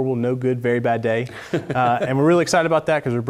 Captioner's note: laugh